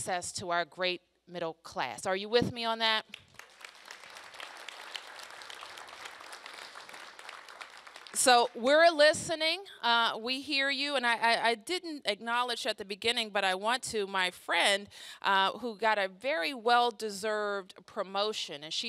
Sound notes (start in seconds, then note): 5.6 applause